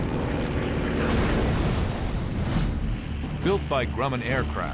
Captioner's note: gunshots